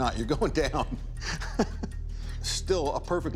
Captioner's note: laughs